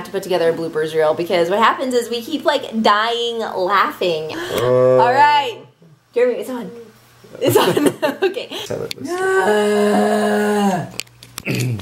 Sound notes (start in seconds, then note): 4.4 moaning; 7.4 laughs; 9.0 moaning